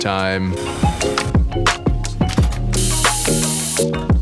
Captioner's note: coffee grinding